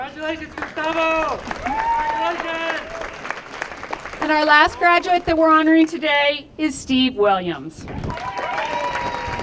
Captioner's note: applause; applause